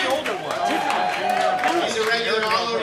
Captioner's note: audience cheering